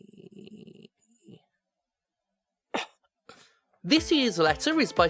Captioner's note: cough